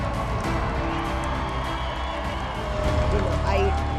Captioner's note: cheering